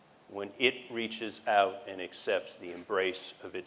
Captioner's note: none